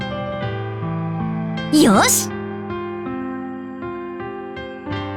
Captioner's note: sigh